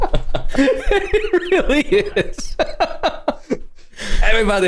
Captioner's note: laughter